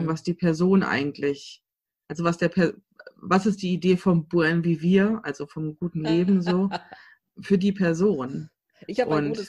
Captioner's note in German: lacht